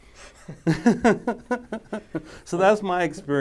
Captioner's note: men laughing